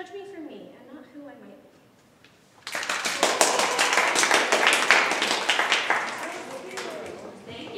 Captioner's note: audience applause